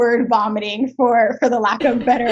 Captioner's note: laughs